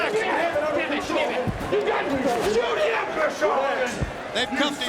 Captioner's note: all shouting